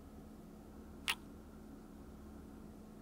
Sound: kiss

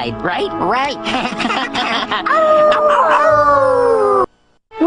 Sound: laughing, howling

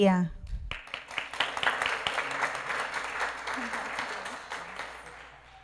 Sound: applause

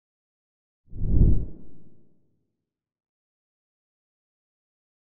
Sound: logo whooshing

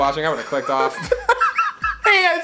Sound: laughing

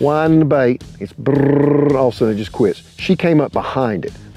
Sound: trills tongue

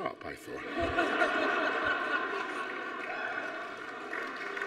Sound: audience laughing

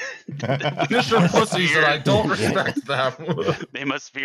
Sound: laughter

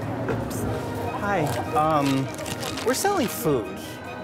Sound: crinkling

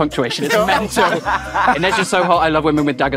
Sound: Archie laughs

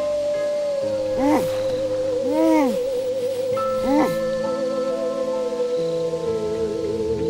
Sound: suspenseful music; man groaning

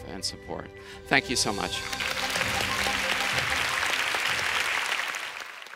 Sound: applause

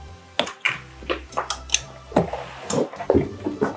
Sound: clicking Sound

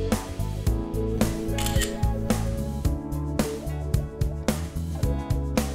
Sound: camera shutter clicking

